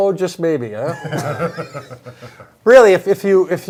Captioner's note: laugh